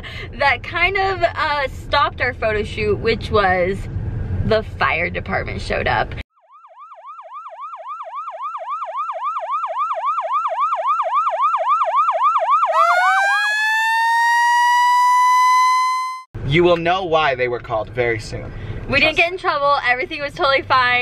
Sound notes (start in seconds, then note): 6.2 sirens wail